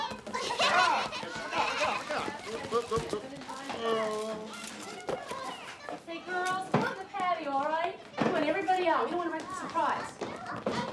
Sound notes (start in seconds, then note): 0.2 kids laughing; 0.4 chattering